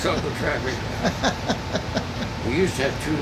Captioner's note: laughing